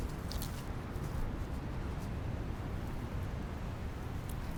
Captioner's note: leaves rustling